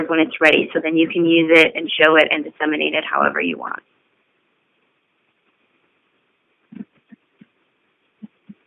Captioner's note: silence